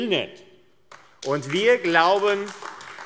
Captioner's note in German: Beifall AfD